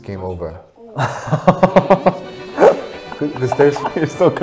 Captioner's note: laughing